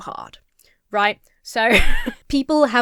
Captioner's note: laughs